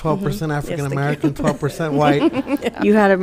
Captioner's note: laughing